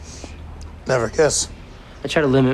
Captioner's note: sniffs